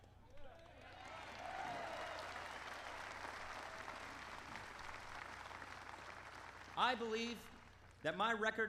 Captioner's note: applause